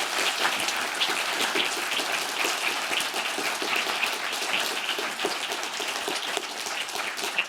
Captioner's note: applause